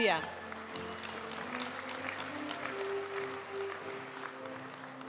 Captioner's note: audience applauding; graduation music